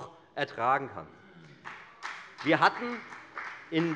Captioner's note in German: Beifall bei der FDP